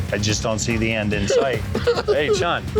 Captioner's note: sobbing